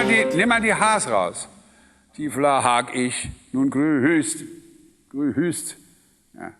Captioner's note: imitates the singer